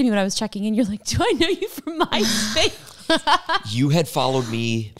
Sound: laughs

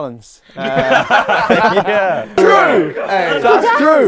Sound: people laughing

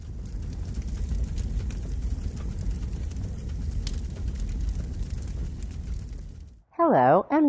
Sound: sound of dry grasses burning

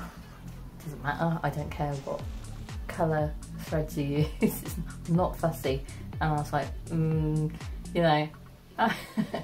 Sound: laughs

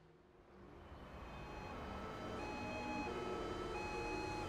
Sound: sound of City night Life

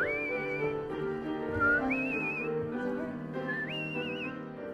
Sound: light instrumental music; whistling in time with music

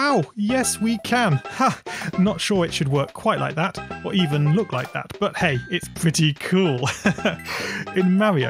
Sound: laughs

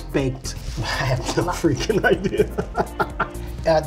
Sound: laughs

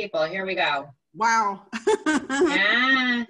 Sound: laughter

